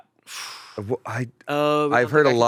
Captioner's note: he blows hard